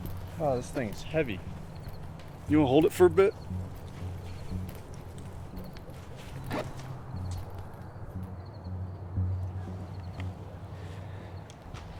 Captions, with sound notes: Ah, this thing is heavy. You want to hold it for a bit? [zipper opens]